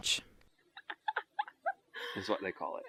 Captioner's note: laughing